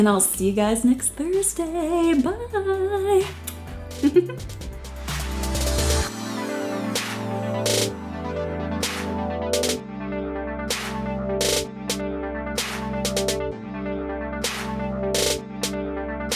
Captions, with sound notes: I'll see you guys next Thursday. Bye, mwah. (giggles) (upbeat electronic music)